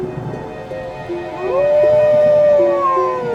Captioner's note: wolf howl